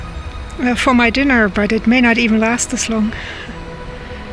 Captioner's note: laughs